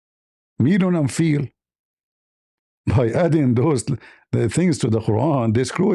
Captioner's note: Arabic